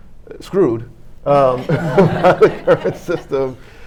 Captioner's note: panel and audience laughing